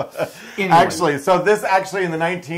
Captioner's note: laugh